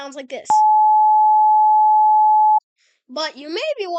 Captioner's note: 853 Hz sine wave